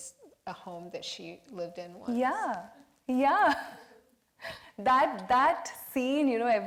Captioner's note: laughs